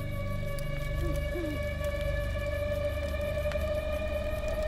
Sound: owl hooting

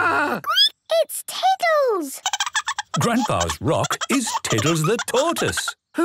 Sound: squeaking; Tiddles giggling

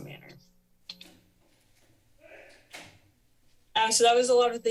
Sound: pause

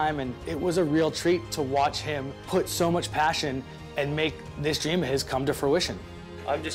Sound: none

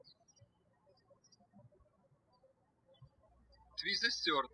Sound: birds chirping

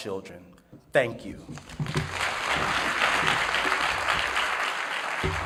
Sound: applause

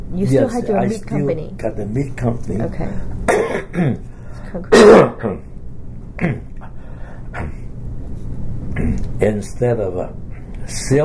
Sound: coughs

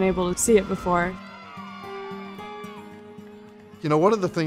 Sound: players cheer

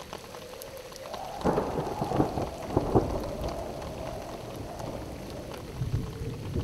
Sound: thunder

